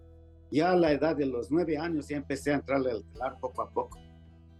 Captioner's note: speaking Spanish